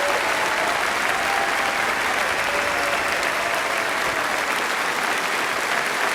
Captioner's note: applause